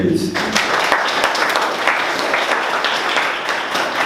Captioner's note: people clapping